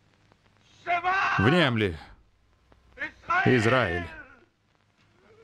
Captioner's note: speaking foreign language